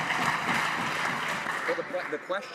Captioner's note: some Applause